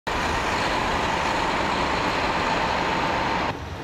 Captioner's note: engine running